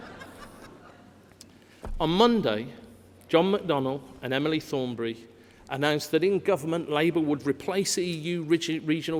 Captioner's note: laughter